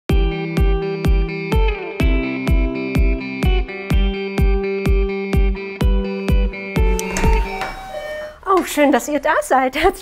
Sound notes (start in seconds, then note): 2.7 loose music; 6.7 doorbell